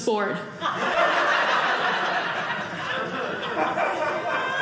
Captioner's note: audience laughing